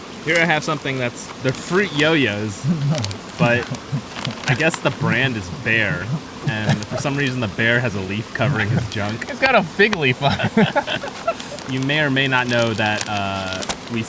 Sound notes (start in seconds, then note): 11.0 all laughing